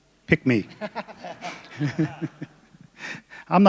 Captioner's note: laughter